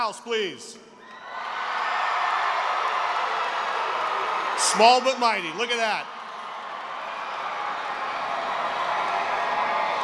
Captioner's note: cheering